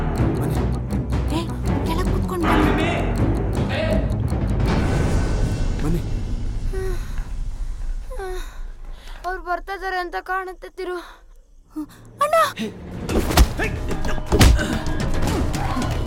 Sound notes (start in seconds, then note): 2.5 Malay Language; 7.1 footsteps sound